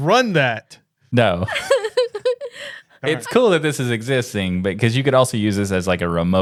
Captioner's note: laughing